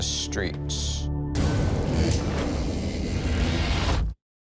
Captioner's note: electricity zapping